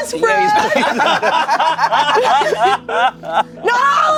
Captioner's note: everyone laughs